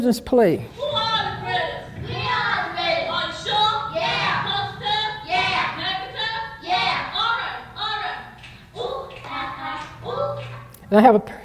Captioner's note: children playing